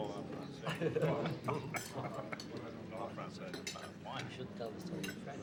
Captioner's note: people chatter and laugh indistinctly